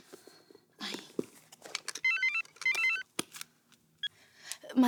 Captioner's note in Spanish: Suena un celular